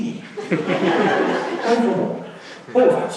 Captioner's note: laughing